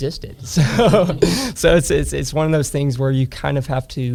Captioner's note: laughs